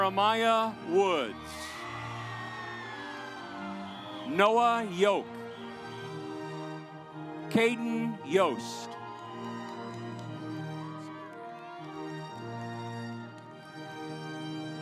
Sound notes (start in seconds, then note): 1.6 audience applauds; 5.8 stately music; 8.4 audience applauds; 12.0 stately music